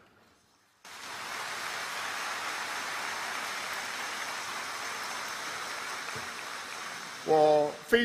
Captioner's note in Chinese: 掌声